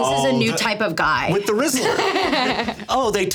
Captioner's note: laughing